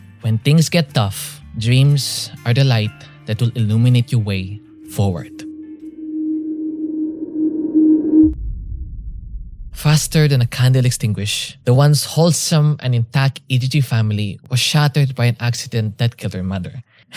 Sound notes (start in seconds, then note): 4.7 riser sound effect to build up tension; 8.5 impact sound effect